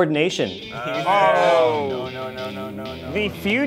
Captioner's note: sounds of dismay